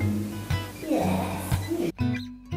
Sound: growls

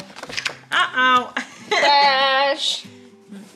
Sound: laughing

